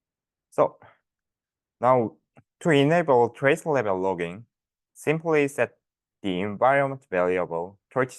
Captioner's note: click